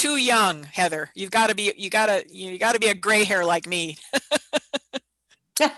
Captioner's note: laughs